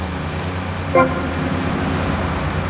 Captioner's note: beeping